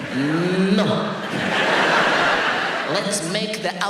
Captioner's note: audience laughs